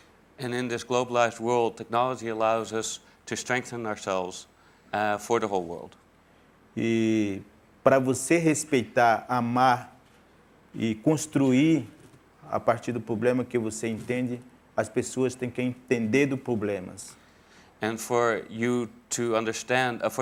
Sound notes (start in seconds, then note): 10.2 speaking in portuguese